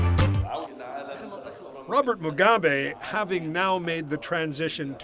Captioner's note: voice speaking alternate language